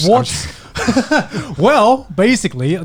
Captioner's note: chuckles